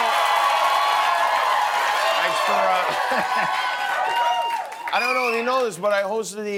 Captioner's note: cheers and applause